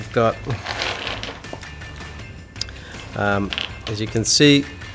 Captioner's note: screws clattering